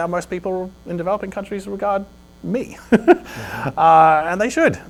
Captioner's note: laughs